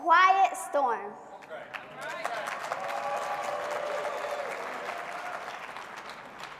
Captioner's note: audience clapping and cheering